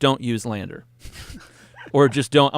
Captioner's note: laugh